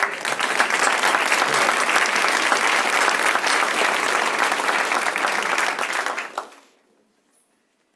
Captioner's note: applause